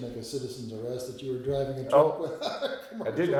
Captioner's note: laughing